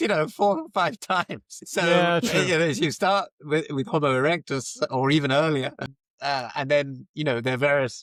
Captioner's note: laughs